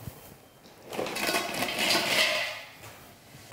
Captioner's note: clanking